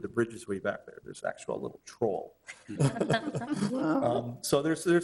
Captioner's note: all chuckling